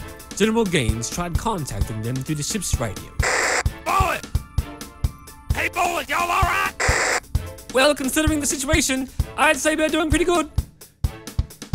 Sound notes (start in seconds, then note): 3.2 radio Static; 6.8 radio Static